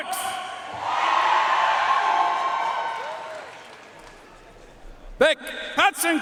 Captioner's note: audience cheering and applauding